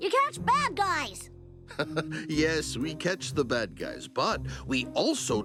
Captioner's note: chuckling